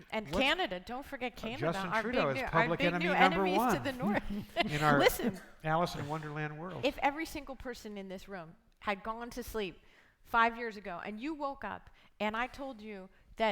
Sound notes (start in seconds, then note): 3.2 laughing